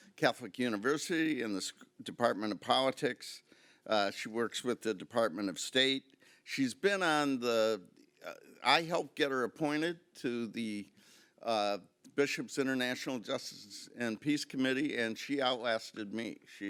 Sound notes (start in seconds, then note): none